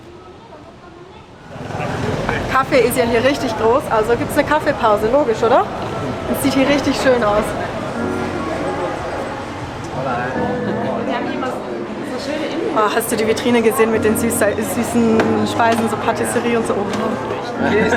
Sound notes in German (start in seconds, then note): 9.9 auf Spanisch